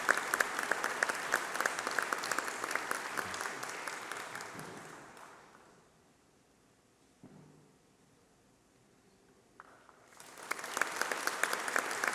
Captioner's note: applause